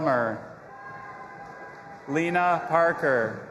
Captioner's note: audience applauding and cheering